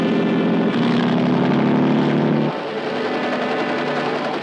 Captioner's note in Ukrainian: рев мотора